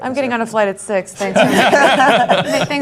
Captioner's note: laughing